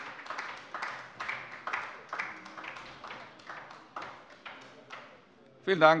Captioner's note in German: Beifall bei der LINKEN